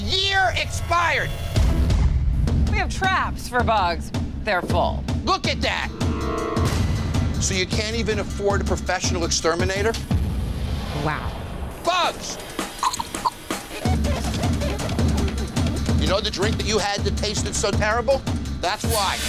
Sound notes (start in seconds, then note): 12.8 gags